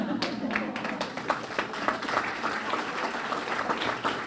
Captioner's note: laughing; clapping